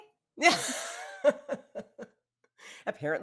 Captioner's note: laughing